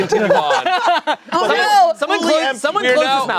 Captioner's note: everyone laughing